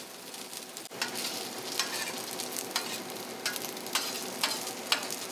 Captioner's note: sizzling kitchen sounds